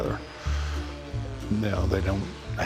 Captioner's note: airplane zooms